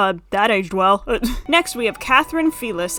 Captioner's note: nervous laugh